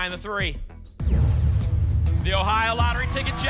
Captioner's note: boom; phaser sound